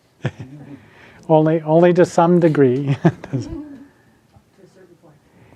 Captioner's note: laughs